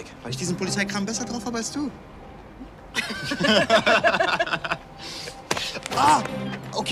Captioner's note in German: beide lachen